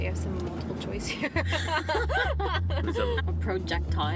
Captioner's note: laughing